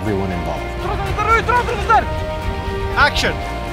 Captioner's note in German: Ruft in einer Fremdsprache